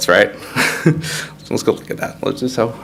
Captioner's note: laughs